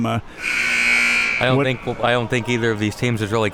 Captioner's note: buzzer blaring